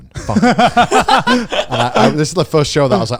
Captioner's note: laugh